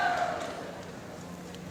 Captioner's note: applause